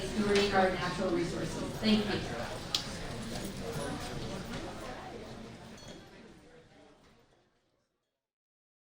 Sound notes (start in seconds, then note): 3.4 audience chatter